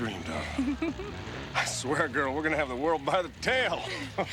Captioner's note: giggles